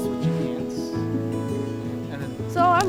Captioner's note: mellow music; murmuring